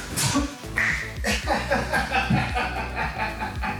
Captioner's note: flesh smacking concrete; laughter